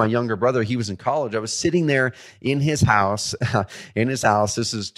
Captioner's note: chuckles